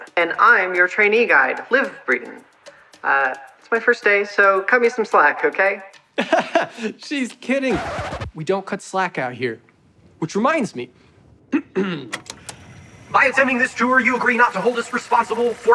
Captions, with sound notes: And I'm your trainee guide, Liv Breeden. Er, it's my first day, so cut me some slack, okay? (LAUGHS) She's kidding! We don't cut slack out here. Which reminds me... (CLEARS THROAT) By attending this tour, you agree not to hold us responsible